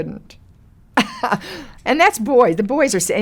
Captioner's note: Lily laughs